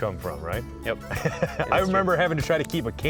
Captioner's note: laughing